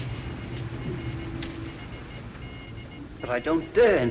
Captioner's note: morse code beeping